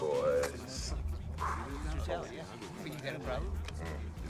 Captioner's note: exhales